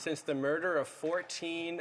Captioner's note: speaking French